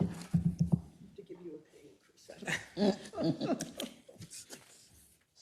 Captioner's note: laugh